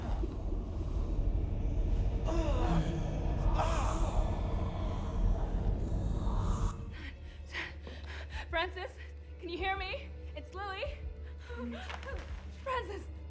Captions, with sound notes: (Francis grunting) Nine, 10. Francis, can you hear me? It's Lily. Francis!